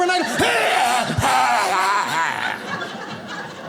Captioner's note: clearing throat; audience laughs